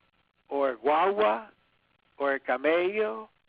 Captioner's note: speaks in foreign language